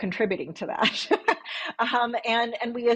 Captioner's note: laughs